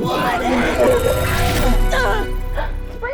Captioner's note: springy glitches